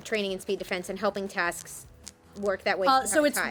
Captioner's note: faintly speaking